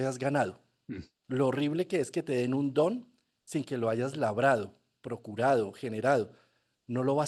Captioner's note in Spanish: carraspeo